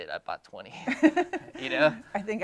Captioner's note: laughing